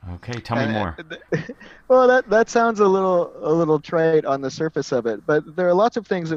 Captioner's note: laugh